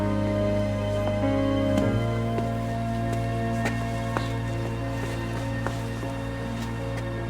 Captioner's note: footsteps thud